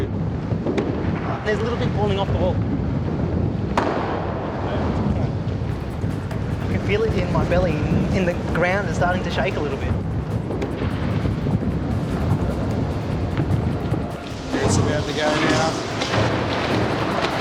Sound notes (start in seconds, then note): 3.7 bang!; 10.5 rumbling